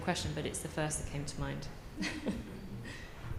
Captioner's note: laughs